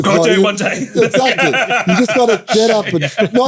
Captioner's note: laughs